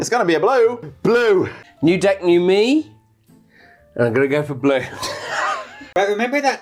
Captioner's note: laughs